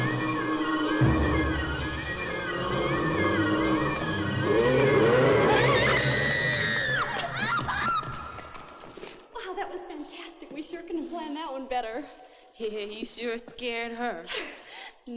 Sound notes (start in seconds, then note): 5.0 girls screaming